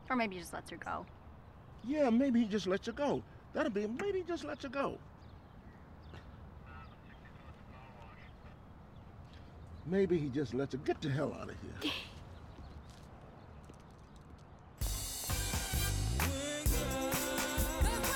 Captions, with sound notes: Or maybe he just lets her go. Yeah. Maybe he just lets her go. That'd be...maybe he just lets her go. ( laughs )